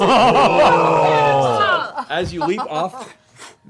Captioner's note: shouting